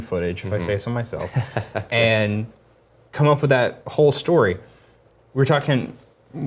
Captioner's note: laugh